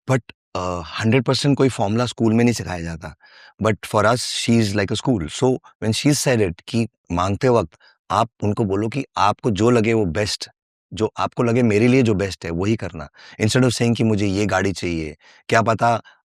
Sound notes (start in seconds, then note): 8.1 non-english speech; 13.9 non-english speech